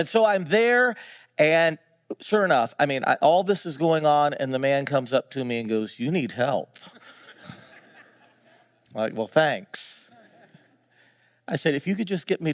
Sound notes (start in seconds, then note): 6.9 audience laughing